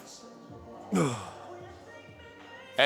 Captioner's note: grunts